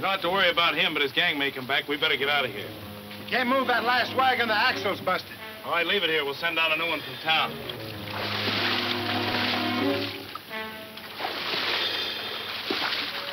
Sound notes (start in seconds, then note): 6.3 water splashing; 7.3 dramatic western music